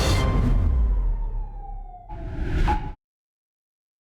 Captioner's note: siren wailing